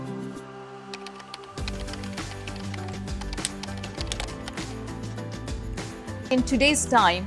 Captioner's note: pleasant music; keyboard keys tapping